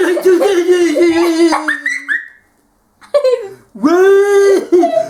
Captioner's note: cries